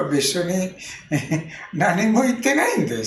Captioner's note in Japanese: 笑い声